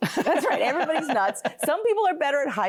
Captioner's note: laughing